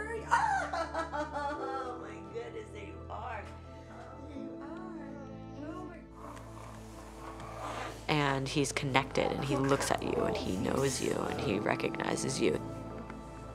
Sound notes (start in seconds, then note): 3.0 giggling; 6.3 fabric shuffling